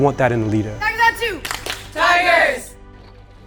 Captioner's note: clapping